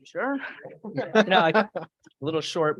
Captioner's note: laughing